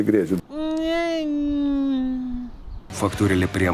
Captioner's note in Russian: Звуки сомнений